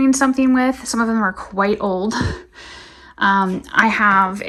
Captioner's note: chuckling